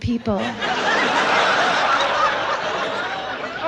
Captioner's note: audience laughs